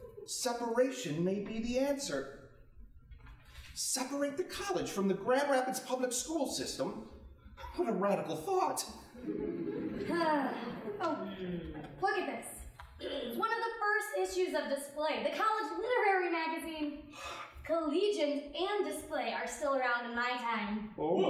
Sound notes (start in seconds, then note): 9.2 audience chuckling